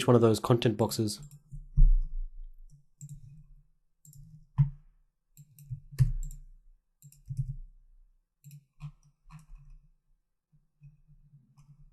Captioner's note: silence